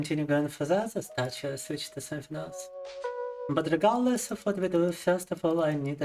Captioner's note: speaking in Russian